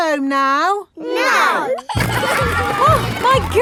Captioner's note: giggling